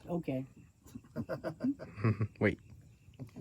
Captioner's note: all laugh